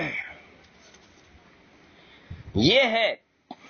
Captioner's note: clears throat